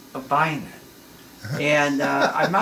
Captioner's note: laughs